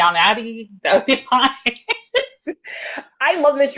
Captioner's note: laughs